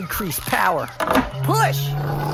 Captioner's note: switch flipped, powering up noise